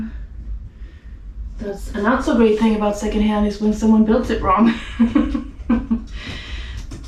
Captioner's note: laughing